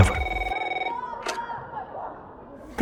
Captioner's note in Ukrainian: дзвінок